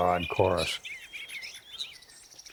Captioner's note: multiple birds singing